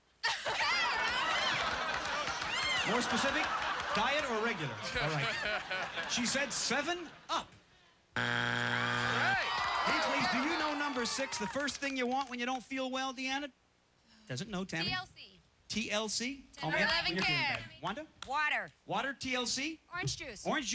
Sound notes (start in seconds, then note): 0.2 laughter; 8.1 buzzer